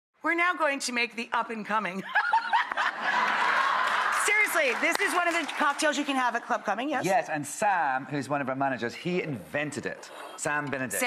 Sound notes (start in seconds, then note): 2.1 laughs; 2.1 audience laughing